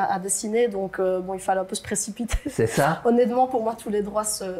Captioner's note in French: rire